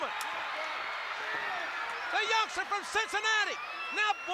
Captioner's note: applause